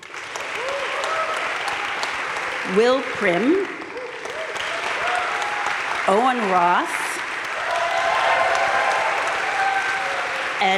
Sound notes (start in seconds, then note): 0.1 crowd cheering and applauding; 4.2 crowd applauding; 7.7 crowd cheering and applauding